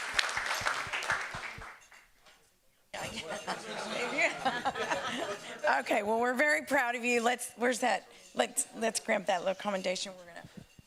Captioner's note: applause